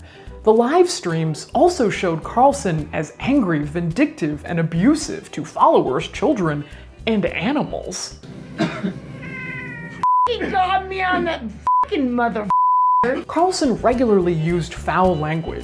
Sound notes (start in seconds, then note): 12.4 beep